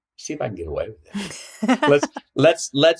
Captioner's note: laughing